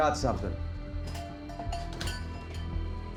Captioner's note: doorbell clangs